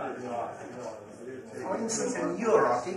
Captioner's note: many voices